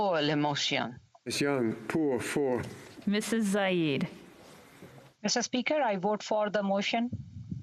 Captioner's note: speaking French